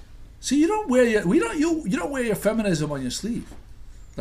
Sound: voiceover

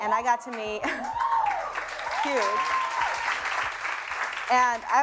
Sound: audience cheering

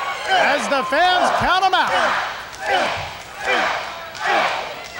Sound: crowd counting

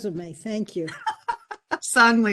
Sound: laughter

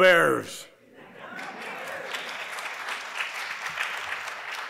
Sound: audience applauds

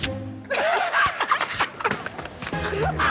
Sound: laughter

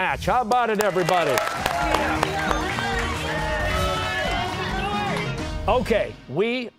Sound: cheers and applause

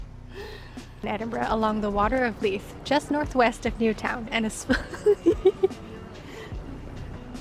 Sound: laughs

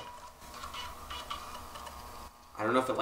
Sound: floppy disk player whirs

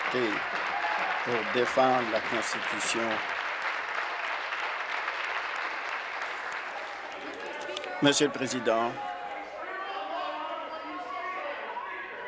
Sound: applause

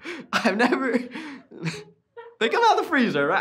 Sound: laughing

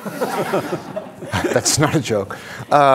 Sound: audience laughing

